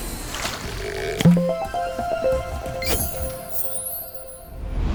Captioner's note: playful chime